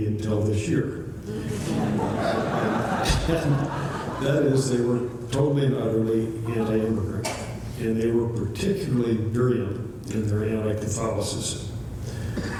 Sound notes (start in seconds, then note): 1.3 laughter